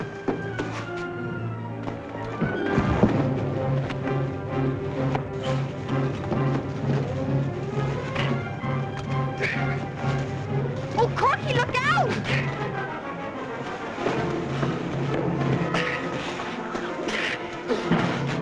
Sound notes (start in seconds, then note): 0.2 dramatic music; 9.4 men grunting